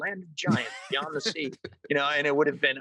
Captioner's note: all laugh